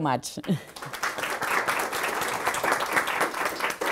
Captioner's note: applause